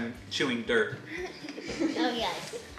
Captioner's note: laughs